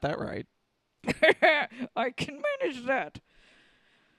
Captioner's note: Leia laughs